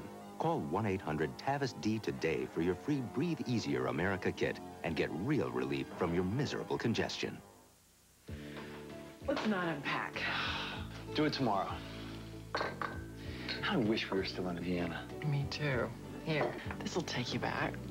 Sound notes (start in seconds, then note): 10.2 man sighs; 12.5 ceramic cup is set down on table